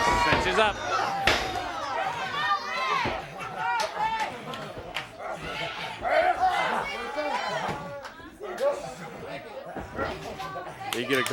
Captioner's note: crowd chatter